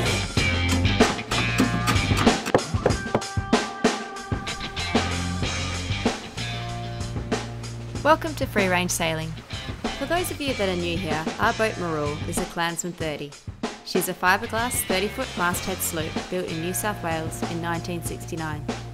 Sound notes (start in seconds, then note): 2.5 light knocking